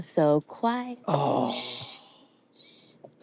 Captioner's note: shushes